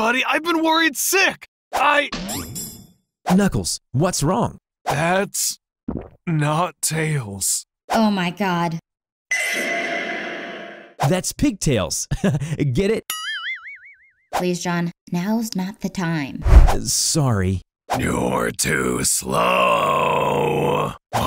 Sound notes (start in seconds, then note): 5.6 gulps; 12.1 chuckles